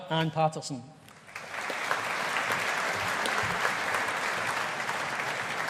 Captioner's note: audience applauding